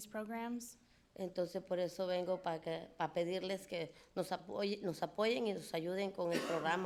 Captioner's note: speaking in foreign language